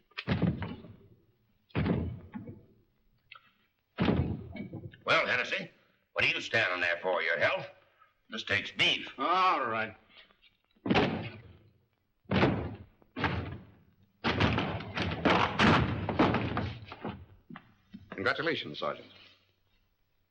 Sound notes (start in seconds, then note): 0.1 thud; 3.9 thud; 10.8 banging; 14.2 door bangs & clatters